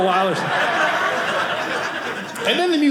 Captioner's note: audience laughing